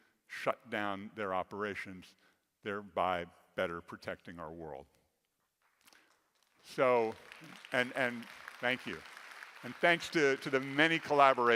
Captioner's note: the audience start clapping